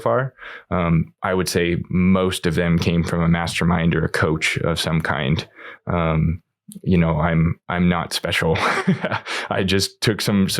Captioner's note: laughs